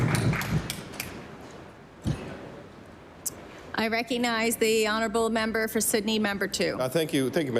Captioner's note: applause